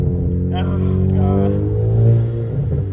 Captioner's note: engine revving